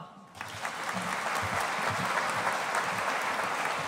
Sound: audience applauding

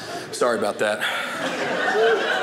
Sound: audience laughing

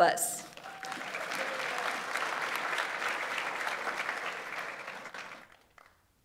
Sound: audience applauds; audience member cheers

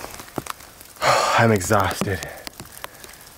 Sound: sighs

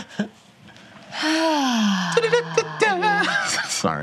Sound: sighs deeply; sings

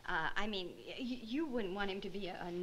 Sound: none

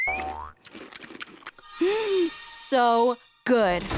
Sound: gasping

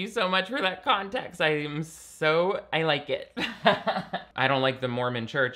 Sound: laughs

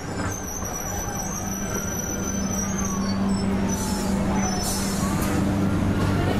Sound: sirens

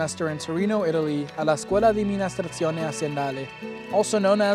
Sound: speaking Italian

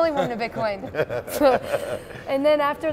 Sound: laughter

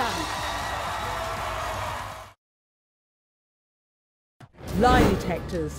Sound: audience clapping

